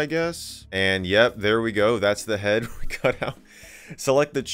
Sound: laughing

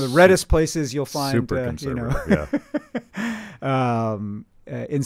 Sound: laughing

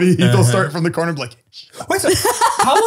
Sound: they laugh

